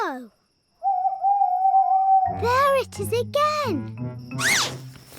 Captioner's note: owl hoots